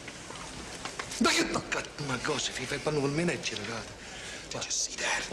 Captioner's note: Speaking ltalian